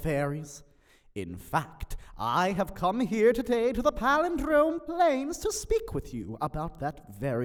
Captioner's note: none